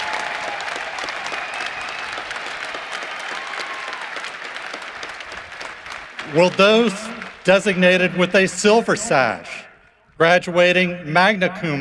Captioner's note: cheering and applause